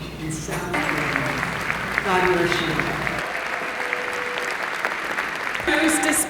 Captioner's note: applause